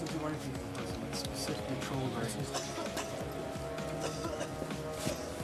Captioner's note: coughing